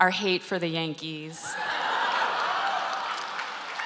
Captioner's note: applause